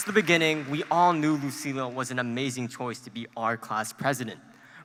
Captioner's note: applause